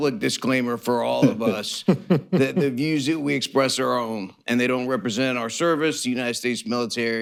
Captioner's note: laughter